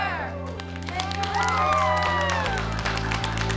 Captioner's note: clapping